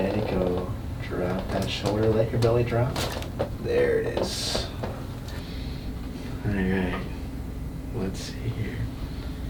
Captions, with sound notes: Let it go, drop that shoulder. Let your belly drop. (cracks) There it is. All right, let's see here.